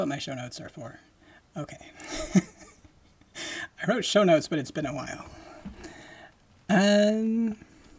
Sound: laughing

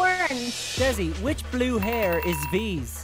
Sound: bell dings

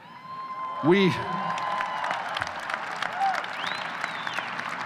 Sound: audience cheers

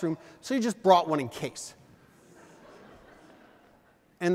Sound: audience: Laughter

